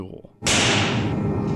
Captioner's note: fires gun